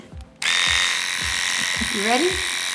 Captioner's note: razor buzzes